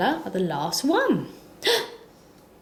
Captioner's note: gasps